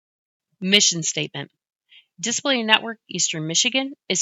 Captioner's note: voiceover